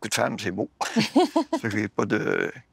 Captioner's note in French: rires